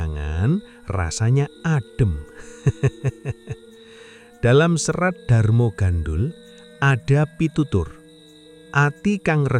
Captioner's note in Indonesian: tertawa